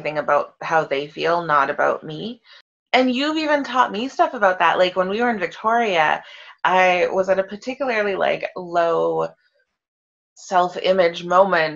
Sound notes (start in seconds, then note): none